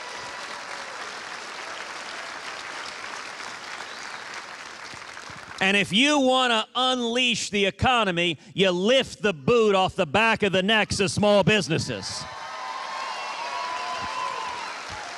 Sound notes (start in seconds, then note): 3.1 cheers and applause